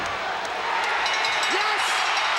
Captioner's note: audience cheering; bell ringing